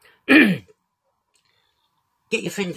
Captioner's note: clears throat